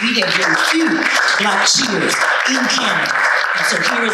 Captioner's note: audience applauding